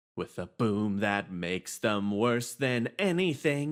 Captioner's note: none